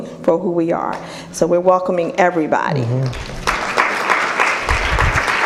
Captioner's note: applause